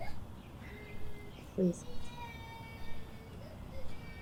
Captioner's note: baby crying